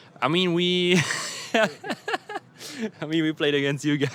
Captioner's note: laughs